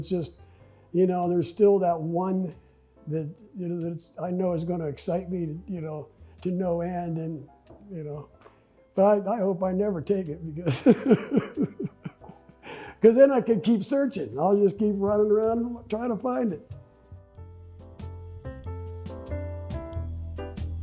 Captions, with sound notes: it's just, you know, and there's still that one that I know is gonna excite me to no end, but I hope I never take it because, (laughs) 'cause then, I could keep searching. I'll just keep running around, trying to find it. (relaxed jazz music)